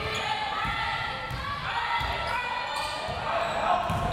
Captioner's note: crowd members shouting